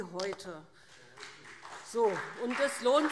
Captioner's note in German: Beifall BÜNDNIS 90/DIE GRÜNEN und CDU